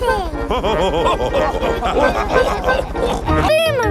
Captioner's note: chuckles; all laughing